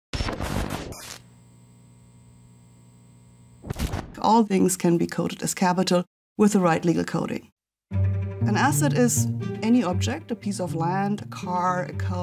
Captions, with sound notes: (machine buzzing) - All things can be coded as capital with the right legal coding. (intense music) An asset is any object, a piece of land, a car,